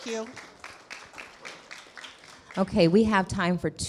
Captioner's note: clapping